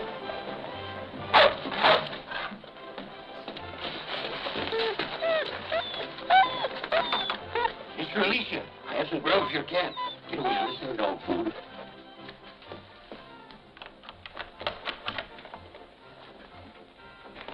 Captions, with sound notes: [dogs barking] [dogs whimpering] Miss Alicia, I have some grub for your cat. Get away, you, this isn't dog food.